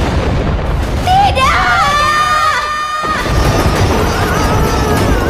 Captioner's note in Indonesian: bersorak